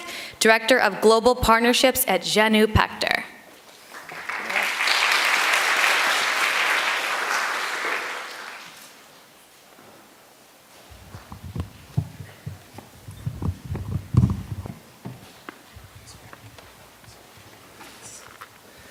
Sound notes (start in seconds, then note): 3.8 applause